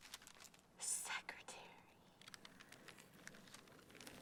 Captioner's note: whispers